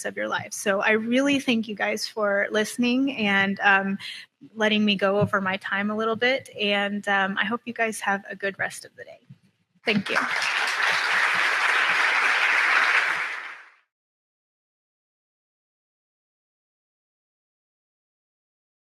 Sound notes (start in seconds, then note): 14.7 applause